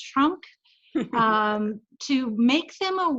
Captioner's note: chuckles